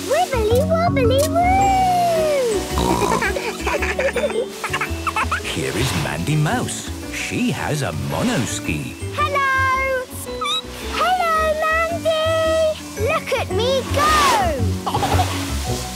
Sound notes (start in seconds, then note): 2.7 snorting; 2.8 giggling; 3.1 laughter; 10.0 squeaking; 14.8 giggling